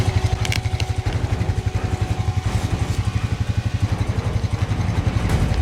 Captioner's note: camera latch snapping into place